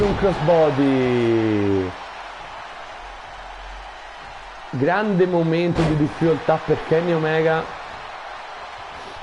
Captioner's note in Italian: Applauso